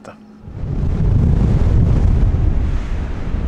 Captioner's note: wind noise